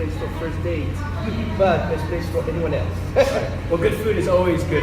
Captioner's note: laughter